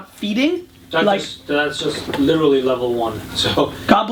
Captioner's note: voiceover